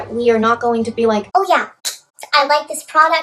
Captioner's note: high-pitched voice